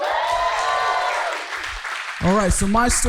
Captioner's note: audience cheering